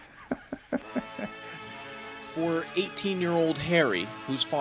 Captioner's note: laughs